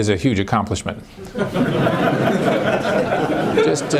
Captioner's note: laughter